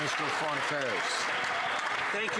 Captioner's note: some Applause